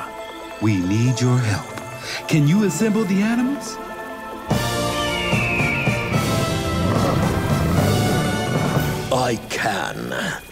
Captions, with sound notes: We need your help. Can you assemble the animals? [squawking] I can.